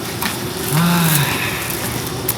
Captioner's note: sigh